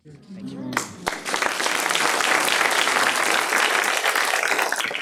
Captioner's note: clapping